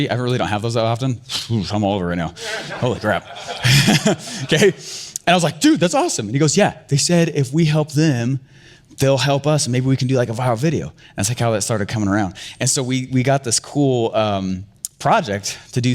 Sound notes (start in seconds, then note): 2.4 laughing; 2.4 audience laughing